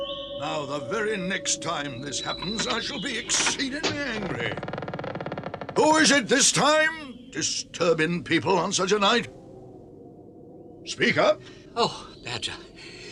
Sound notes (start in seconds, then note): 4.7 door creaks open